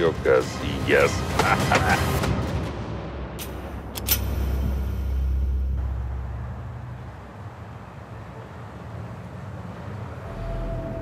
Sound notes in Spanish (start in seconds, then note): 1.3 Carcajadas